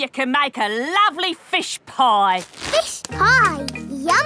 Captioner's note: none